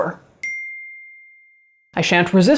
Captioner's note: bell dings